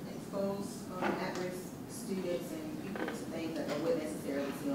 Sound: voiceover

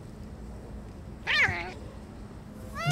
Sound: cat yowls

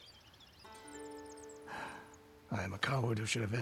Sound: sigh

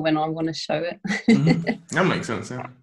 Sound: laughing

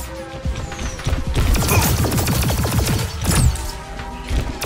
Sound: gun firing

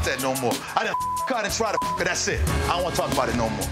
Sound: beep

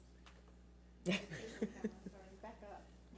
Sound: laughs

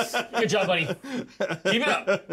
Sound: laughs; speaker laughs

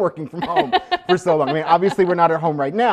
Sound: laughs

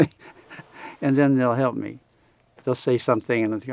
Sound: laughs

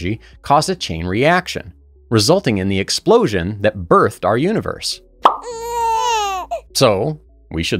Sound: baby noises

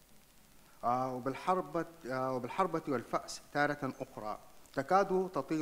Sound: speaks in foreign language

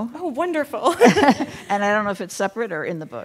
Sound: chuckling

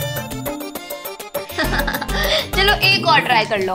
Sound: laughing

